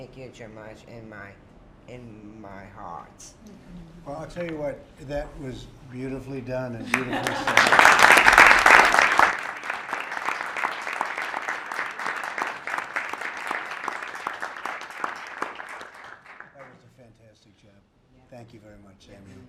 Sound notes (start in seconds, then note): 11.9 applause